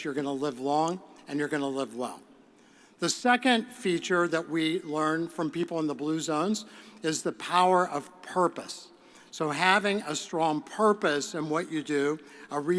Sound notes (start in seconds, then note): none